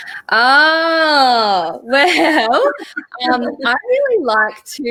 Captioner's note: chuckles